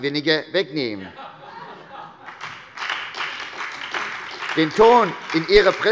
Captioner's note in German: Heiterkeit und Beifall bei der SPD und der FDP